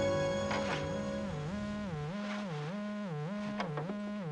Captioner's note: line buzzing